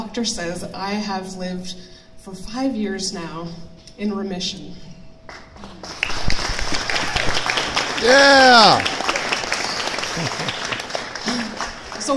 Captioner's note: audience clapps